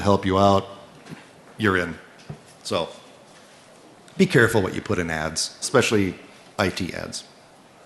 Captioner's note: off mic